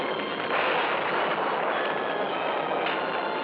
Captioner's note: thunderclap